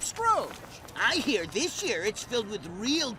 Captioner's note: footsteps fading